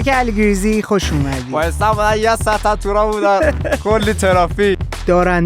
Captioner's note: laughs